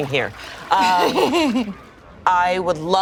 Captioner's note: laughs